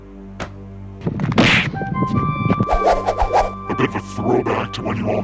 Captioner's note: air wooshing; electronic kicking